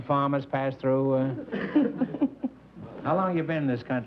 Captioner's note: laughter